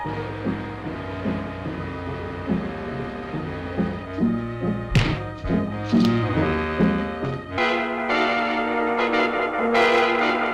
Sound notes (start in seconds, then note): 4.9 punch thuds; 7.6 dramatic music